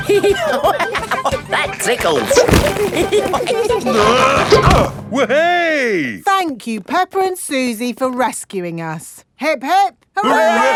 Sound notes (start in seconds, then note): 0.0 laughing; 2.6 all giggling; 3.8 grunting